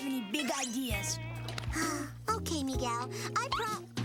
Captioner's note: sigh